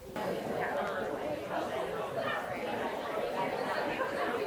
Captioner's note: people chattering